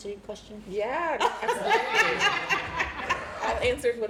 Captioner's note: laughter